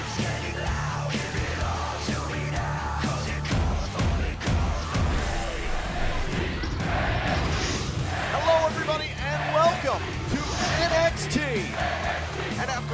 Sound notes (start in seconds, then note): 6.9 fans chanting